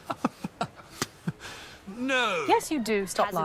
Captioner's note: chuckles